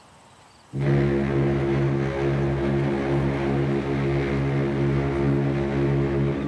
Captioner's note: ship horn blares